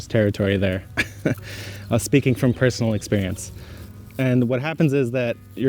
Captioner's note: laughs